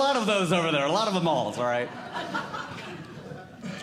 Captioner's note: audience Laughing